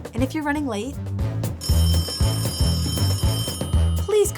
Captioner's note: phone rings